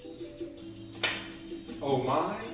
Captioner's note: slap